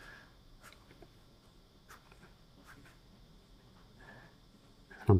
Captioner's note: silence